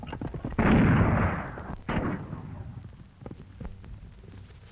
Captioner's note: gunshots banging